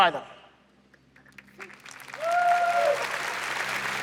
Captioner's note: applause